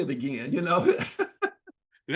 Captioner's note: laughs